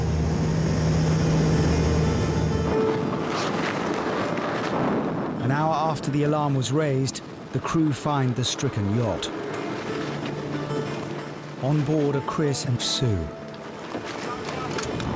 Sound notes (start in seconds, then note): 0.0 lifeboat engine whirring; 1.8 suspenseful music; 1.8 wind swooshing; 9.4 suspenseful instrumental music; 14.0 wind swooshing